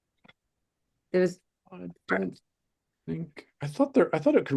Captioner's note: faintly speaking